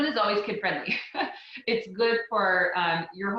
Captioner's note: laughs